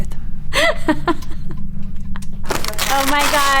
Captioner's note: Hillary laughing